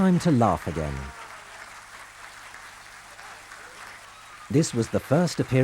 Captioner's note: audience applauds